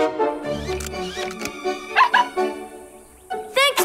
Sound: barking

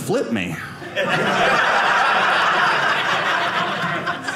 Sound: audience laughing

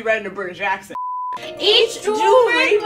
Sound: beep

